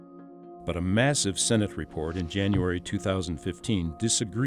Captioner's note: voiceover